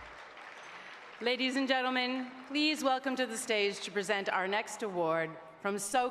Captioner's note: applause